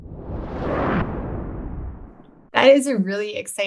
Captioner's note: air whooshing